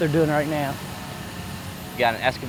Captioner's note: excavator engine revving